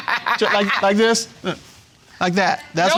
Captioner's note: laughing